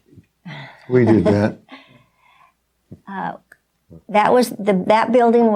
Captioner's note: laughing